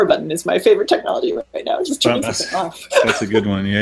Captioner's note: laughing